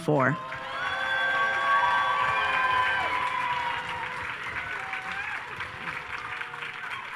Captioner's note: audience cheers and applauds